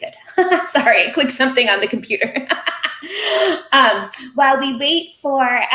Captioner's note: laughing; laughing